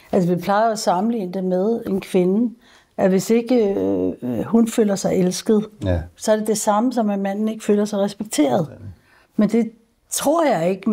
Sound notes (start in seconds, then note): none